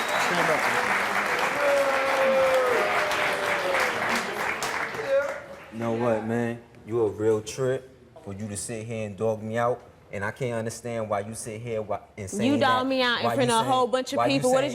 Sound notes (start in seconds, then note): 1.5 audience booing